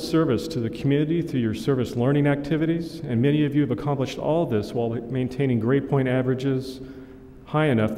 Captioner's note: none